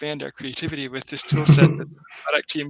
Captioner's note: laughing